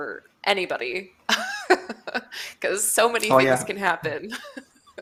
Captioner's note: laughs